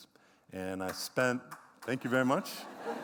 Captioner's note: clapping